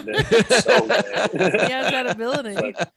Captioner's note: laughter